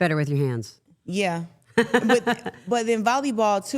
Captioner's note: laughing